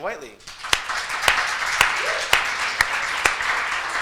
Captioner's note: applause